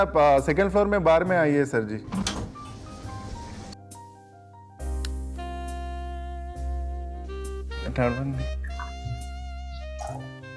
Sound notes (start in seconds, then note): 2.0 lift door opens